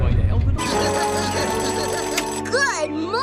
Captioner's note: alarm Clock Rings